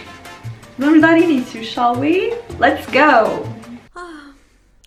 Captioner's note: super fancy british accent